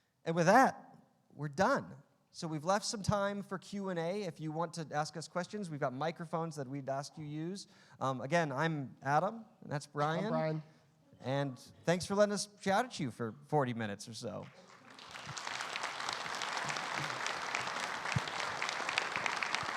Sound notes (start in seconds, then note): 14.4 audience applause